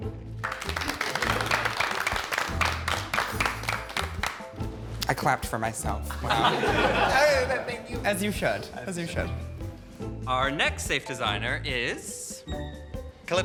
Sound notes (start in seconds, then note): 0.4 group applauding; 6.1 group laughing; 12.1 soft whimsical music continues